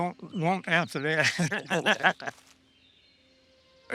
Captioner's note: both laugh